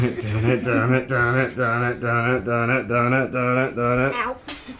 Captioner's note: child laughs; vocalizing EDM music